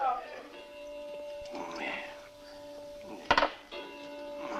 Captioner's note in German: Uhr schlägt